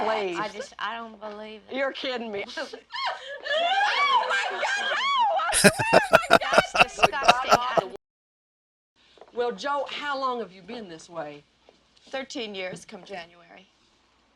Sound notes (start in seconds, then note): 5.5 laughing